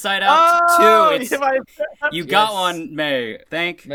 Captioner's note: excited noises